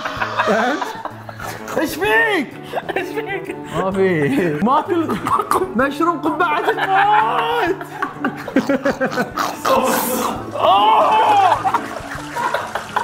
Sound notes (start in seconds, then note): 6.3 hysteric laughing; 10.5 moans